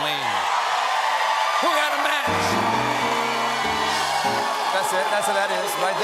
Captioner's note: cheers and applause